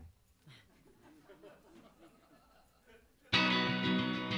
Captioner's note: audience laughs; guitar music